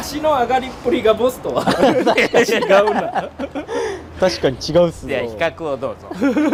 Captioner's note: laughs